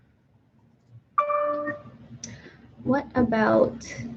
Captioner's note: computer dings